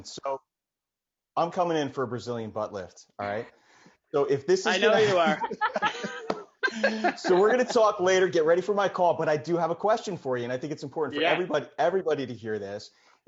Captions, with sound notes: So I'm coming in for Brazilian butt lift. All right. - I know you are. (all laugh) - So we're gonna talk later, get ready for my call, but I do have a question for you. And I think it's important for everybody to hear this,